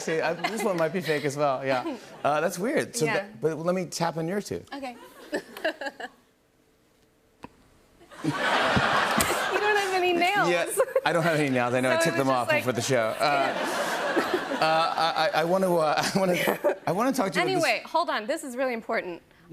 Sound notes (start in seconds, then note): 5.6 laughs; 8.1 laughter; 13.2 laughter